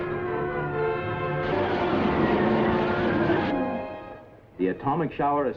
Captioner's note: machine whirring